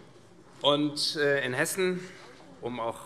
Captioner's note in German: none